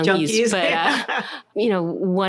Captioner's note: laughter